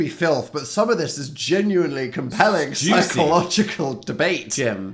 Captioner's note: laughing